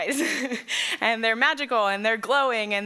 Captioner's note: laughs